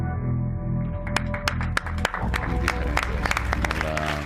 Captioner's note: applause